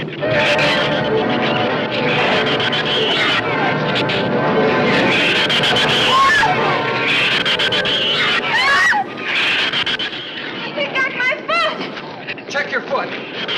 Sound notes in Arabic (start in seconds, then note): 0.0 موسيقى متوترة مستمرة; 0.1 صراخ الزبابة; 5.9 آن تصرخ